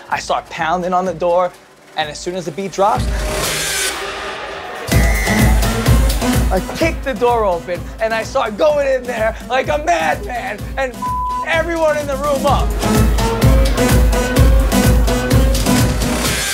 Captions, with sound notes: I start pounding on the door, and as soon as the beat drops. (uptempo dance music) I kick the door open, and I start going in there like a madman, and (beep) everyone in the room up. (uptempo dance music)